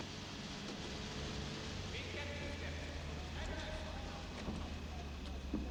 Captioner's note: soldiers talking